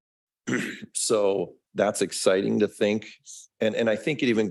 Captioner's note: clears throat